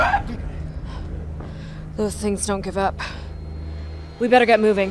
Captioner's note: monster shrieks